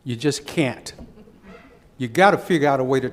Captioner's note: laughs